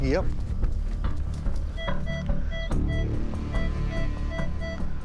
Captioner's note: beeping